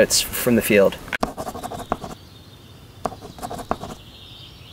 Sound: pen scratching

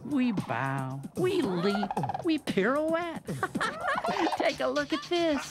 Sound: laughs

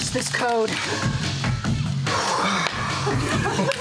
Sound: exhale; group laughter

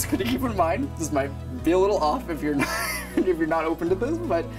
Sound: laughs

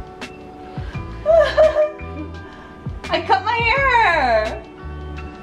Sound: laughs

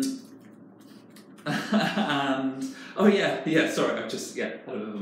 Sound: laughing

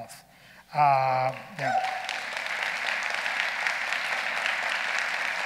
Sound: audience applauding

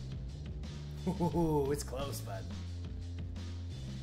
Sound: laugh

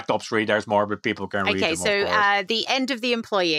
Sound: both laugh

